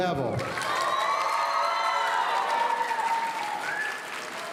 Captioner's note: audience cheering